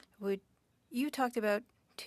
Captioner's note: speaking French